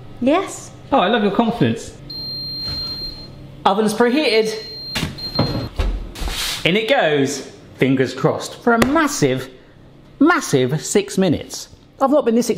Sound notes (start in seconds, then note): 1.9 oven bleeps